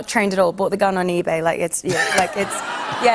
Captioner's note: laughter